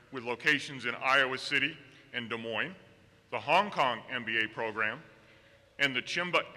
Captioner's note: none